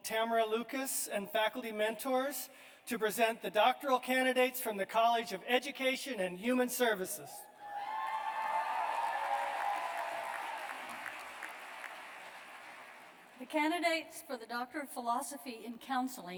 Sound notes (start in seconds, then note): 5.1 cheers and applause